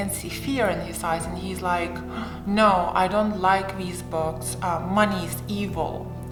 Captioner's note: gasps